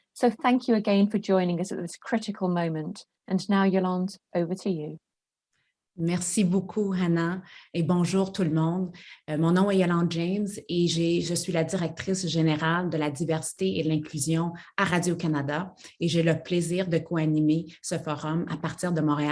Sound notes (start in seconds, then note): 6.8 speaks French